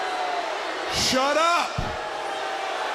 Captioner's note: crowd cheering